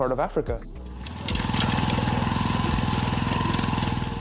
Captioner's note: engine purring